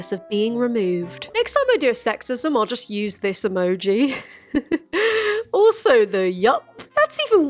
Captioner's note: laughs